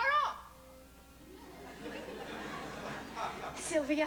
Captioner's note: light laughter